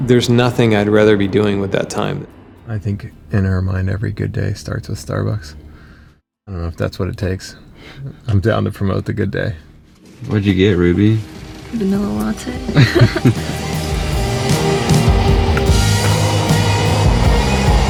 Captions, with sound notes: There's nothing I'd rather be doing with that time. I think in her mind, every good day starts with Starbucks. I don't know if that's what it takes. I'm down to promote the good day. What'd you get Ruby? - Vanilla latte. (both laugh) (rock music begins)